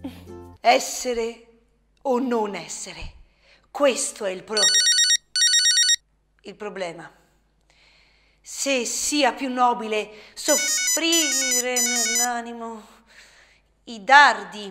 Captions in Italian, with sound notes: Essere o non essere questo è il prob....(Squillo del telefono ) il problema Se sia più nobile soffrire (squillo del telefono ) nell' animo, i dardi